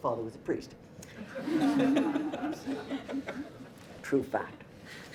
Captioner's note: audience laughter